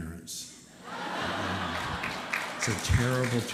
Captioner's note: laughter